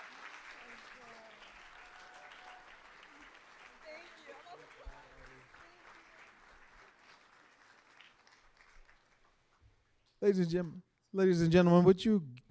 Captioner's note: applause